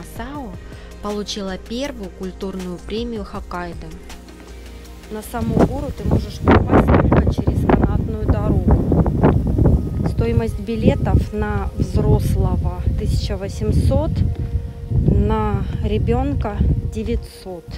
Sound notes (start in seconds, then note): 4.4 normal voice